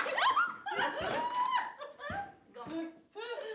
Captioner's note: giggling